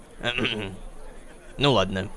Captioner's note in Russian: Э, кх-кхм